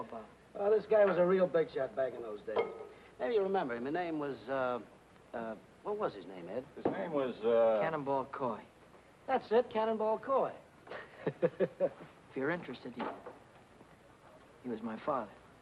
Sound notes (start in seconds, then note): 10.9 happy chuckling